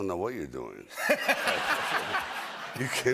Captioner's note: laughter